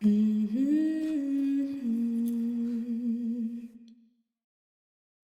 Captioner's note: humming